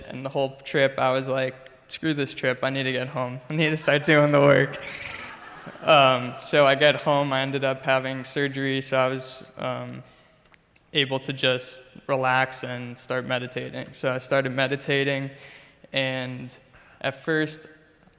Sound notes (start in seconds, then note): 5.3 crowd laughs